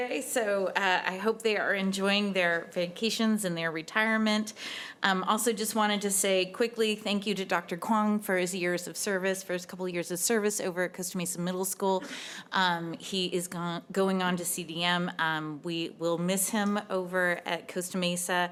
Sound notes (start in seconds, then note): none